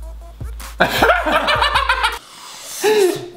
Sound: laugh

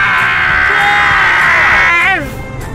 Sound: both screaming each other's names

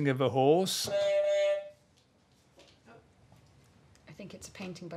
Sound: honk

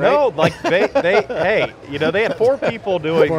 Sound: laughing

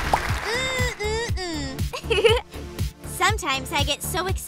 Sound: applause; giggles

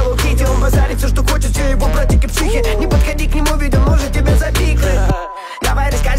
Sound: Ха-ха

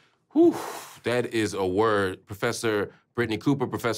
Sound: exhales

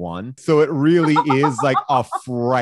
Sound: laughs

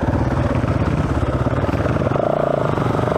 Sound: engine revving

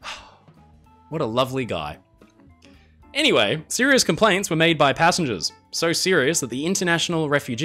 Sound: sigh

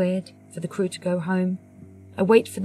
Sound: none

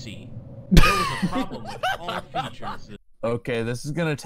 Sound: laughter

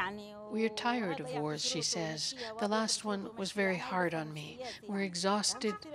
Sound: speaking Foreign Language

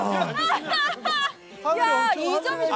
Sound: ha ha ha

